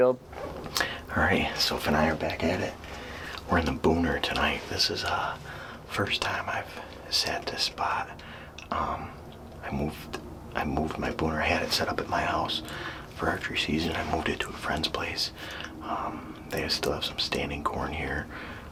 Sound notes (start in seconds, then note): none